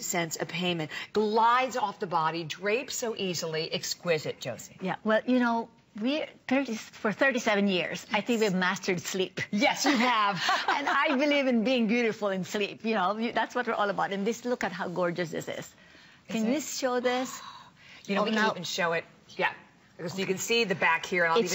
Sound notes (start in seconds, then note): 10.1 laughter